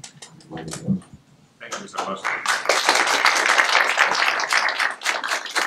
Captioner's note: applause